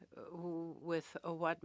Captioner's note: speaking French